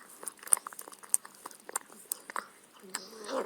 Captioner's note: licking sounds